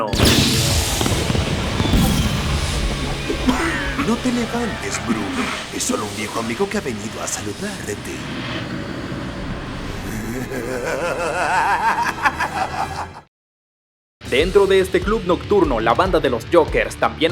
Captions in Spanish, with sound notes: -"No te levantes Bruce. Es sólo un viejo amigo que ha venido a saludarte" *Risa maligna* Dentro de este club nocturno la banda de los Jokers también